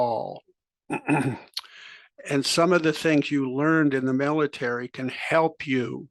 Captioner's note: cough